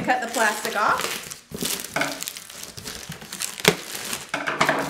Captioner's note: crinkling